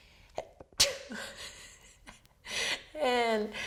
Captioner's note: laughs; sneezes